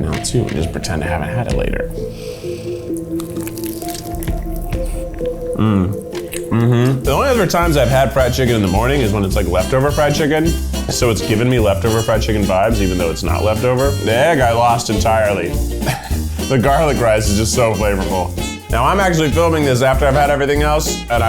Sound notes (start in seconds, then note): 2.7 crunching; 3.6 ominous music; 15.8 laughs